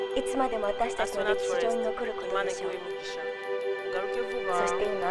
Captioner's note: woman #1 speaking japanese; woman #2 speaking japanese